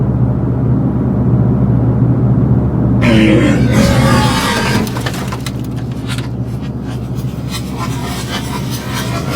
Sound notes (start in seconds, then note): 3.0 growling